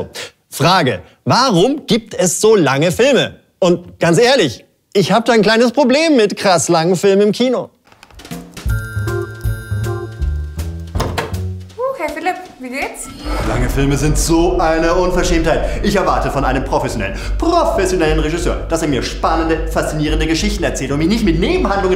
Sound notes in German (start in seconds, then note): 8.2 Entspannte Musik; 10.8 Tür geht auf